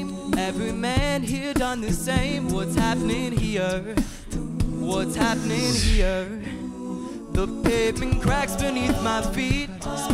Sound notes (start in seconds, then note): 5.2 whoosh